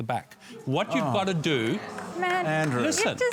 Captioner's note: groaning